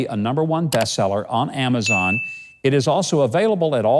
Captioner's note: keys clicking; bell dings